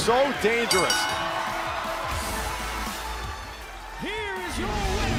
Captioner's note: bell ringing